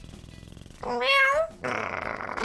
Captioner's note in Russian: мурчание котика; мяу; рычание